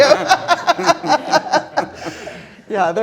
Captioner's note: all laughing